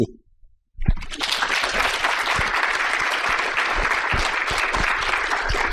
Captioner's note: applause